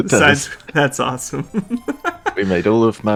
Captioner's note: laughing